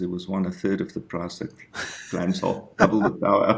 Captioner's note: giggles